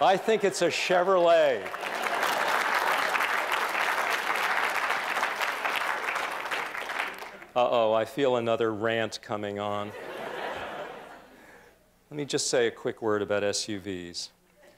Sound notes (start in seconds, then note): 2.0 applause; 9.9 laughter; 14.5 laughter